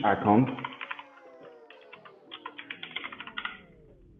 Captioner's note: keys clicking